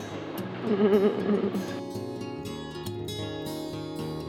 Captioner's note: chuckling; lively music